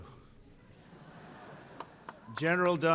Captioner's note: laughter